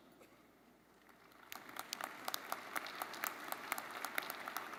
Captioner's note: crowd applauding